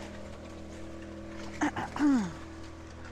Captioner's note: coughs